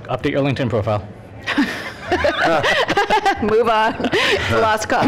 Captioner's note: laughter